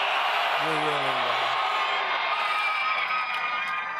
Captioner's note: applause